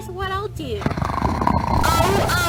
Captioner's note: snoring Continues